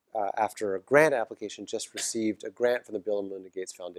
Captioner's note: cough